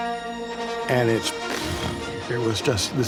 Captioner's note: explosion sound